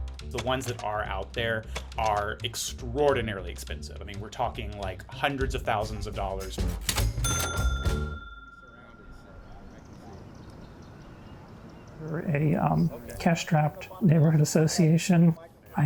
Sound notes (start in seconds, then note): 0.0 upbeat percussive music; 6.6 cash register ringing